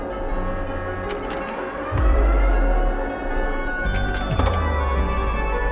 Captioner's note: slides clicking; suspenseful music continuing